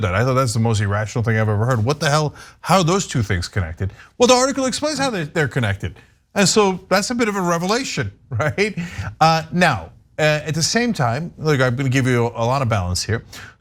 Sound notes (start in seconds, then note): 8.7 laugh